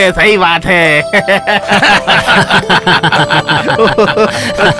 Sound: laughs

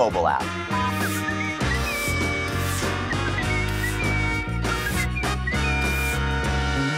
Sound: whistling

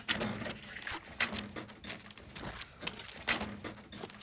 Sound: pictures scraping

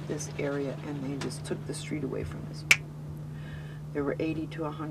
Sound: snaps

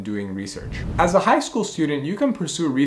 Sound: air whooshing

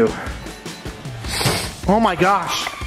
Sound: sniffing

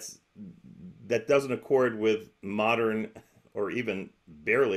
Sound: chuckles

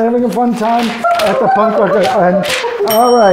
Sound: bell rings; box beeping

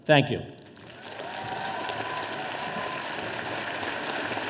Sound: audience applauding

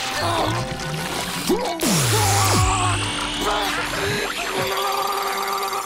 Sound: groaning; groaning

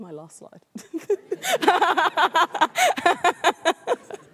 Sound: laughs

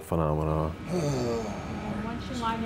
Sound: sighs

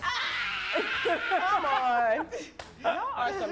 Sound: laughing

